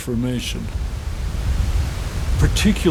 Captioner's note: water rushes